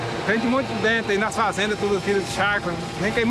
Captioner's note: Portuguese spoken audio